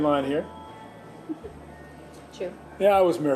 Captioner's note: laughs